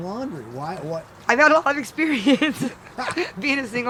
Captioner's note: laughs